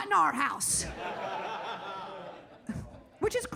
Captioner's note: audience laughing